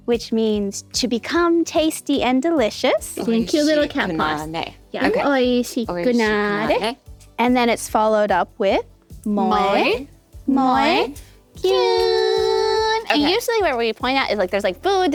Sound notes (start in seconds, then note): 3.5 speaking foreign language